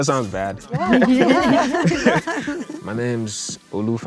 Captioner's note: all laugh